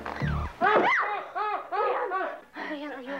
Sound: tense music continues; Molly shrieks; Leon grunting

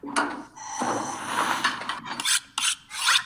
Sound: air hissing; blade sharpening

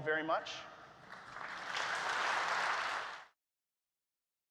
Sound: applause

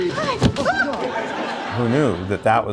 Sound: laughter

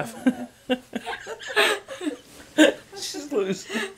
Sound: laughing

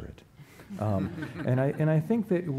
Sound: laughing

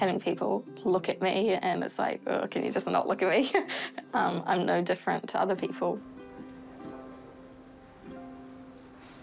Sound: chuckles

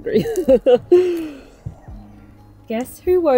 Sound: laughing

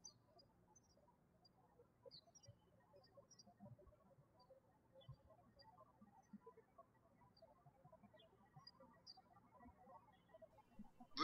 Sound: birds chirping

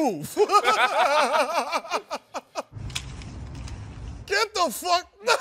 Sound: laughing; laughing

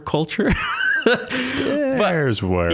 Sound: laughing

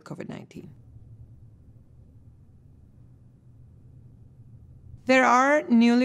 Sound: silence

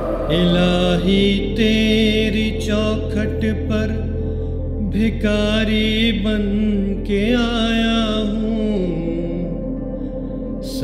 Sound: reciting a hamd

